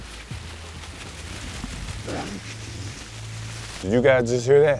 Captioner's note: leaves rustling